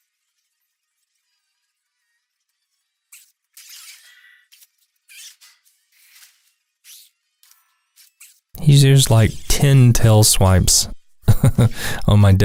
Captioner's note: haha